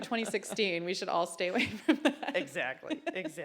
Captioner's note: laughter